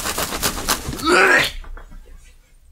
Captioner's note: retches